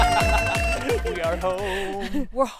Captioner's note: laughter